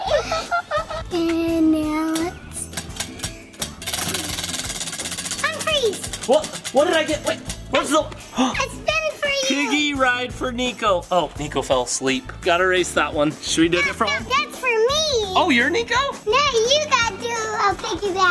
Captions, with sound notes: And now lets... (wheel spinning) Unfreeze! - What did I get? Wait. Where's the-- - I spin it for you. - Piggy ride for Nikko. Oh, Nikko feel asleep. Gotta erase that one-- - It's for me. - Oh, you're Nikko? - Now you gotta do a piggyback--